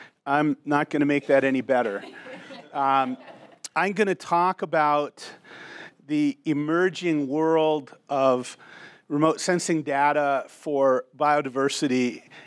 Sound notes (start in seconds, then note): 1.2 audience laughing